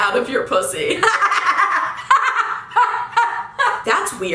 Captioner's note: cackling